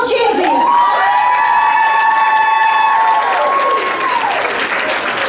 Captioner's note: crowd screaming